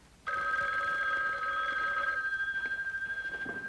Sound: phone ringing

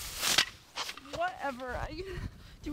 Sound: birdhouses rattle

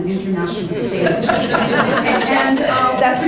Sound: audience laughing

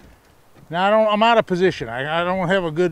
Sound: rod whipping

